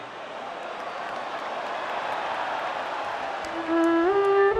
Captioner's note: audience applauds and cheers; gentle music